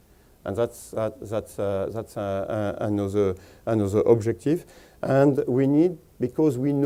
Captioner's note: stutters